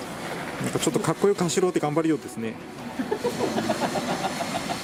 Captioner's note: laughs